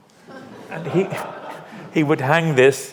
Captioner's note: audience laughs